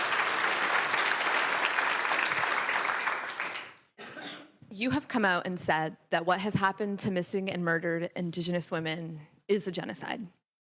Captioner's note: applause